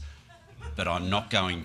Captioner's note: laughs